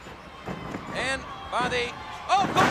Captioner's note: body thudding